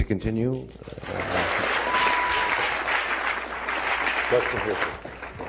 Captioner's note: applause